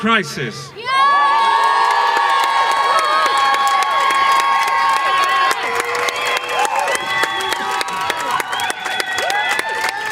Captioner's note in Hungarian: Taps és éljenzés